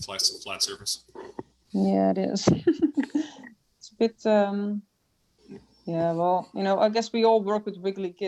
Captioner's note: chuckles